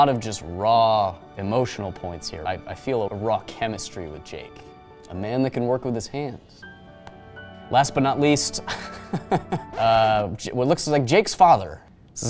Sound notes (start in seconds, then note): 8.6 laughs; 9.7 record scratches